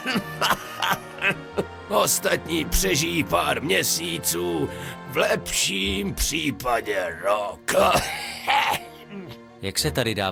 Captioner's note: laugh; cough